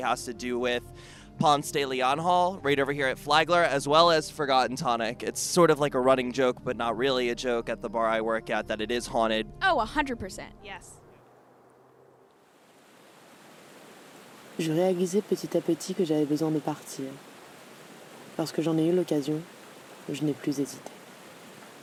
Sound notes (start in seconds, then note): 13.7 water gushing; 15.8 speaking in a foreign language